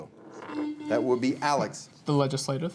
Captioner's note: buzzer beeping